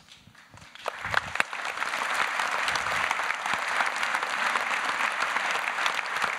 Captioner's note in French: Applaudissements